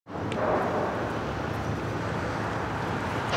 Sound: wind blowing

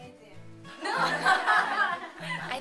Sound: laughter

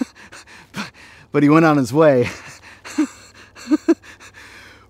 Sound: laughs

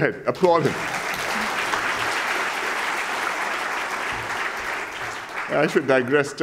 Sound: applause

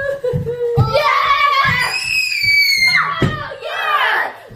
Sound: screaming in the background

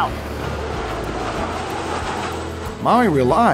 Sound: plane engine roars

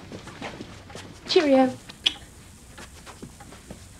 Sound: kisses

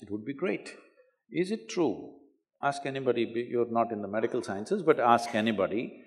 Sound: none

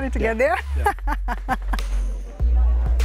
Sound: laughs

